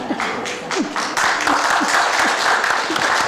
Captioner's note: clapping